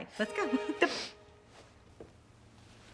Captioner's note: chuckling